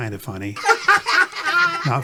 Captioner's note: laughing sound effect plays